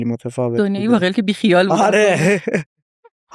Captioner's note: laughs